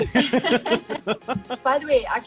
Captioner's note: they laugh